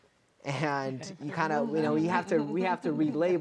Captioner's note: laughing